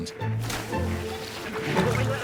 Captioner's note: water splashes